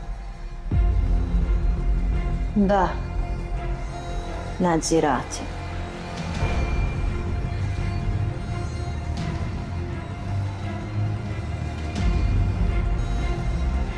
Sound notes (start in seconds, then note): 4.2 speaking in foreign language; 7.7 ominous orchestral music